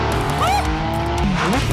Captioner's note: screaming